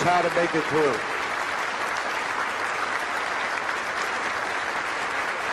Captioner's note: crowd applauding